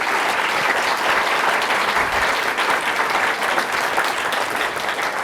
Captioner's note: clapping